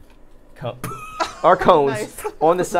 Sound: Safiya laughing

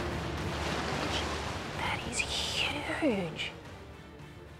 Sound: whispers

